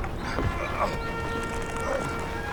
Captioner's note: grunts